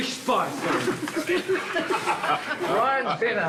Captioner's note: all laughing